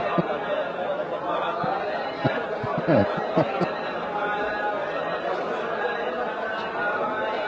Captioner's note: Ketawa